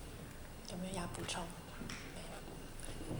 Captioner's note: Mandarin